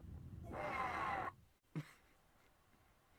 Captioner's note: chuckles